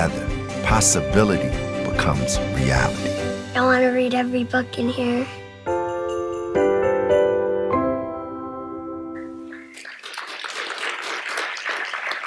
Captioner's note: applause